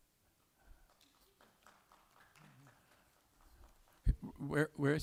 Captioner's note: applause